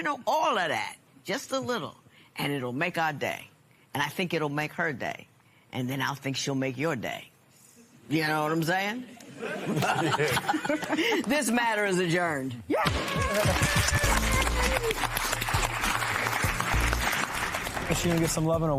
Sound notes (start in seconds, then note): 9.3 laughing; 15.1 applause